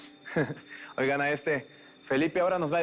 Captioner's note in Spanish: Risas